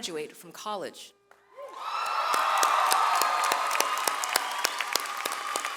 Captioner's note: audience cheers